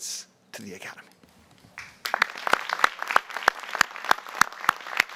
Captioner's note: applause